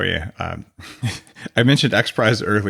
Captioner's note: laughs